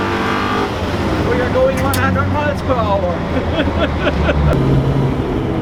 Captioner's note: laughs